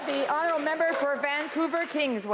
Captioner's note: applause